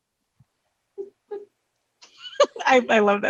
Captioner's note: laughs